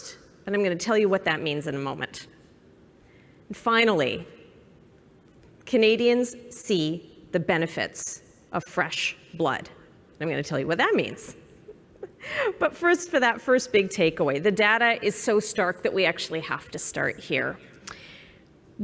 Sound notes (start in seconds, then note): 11.6 laughs